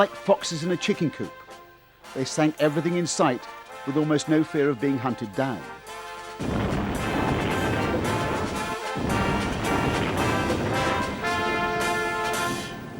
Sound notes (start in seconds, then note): 6.4 explosion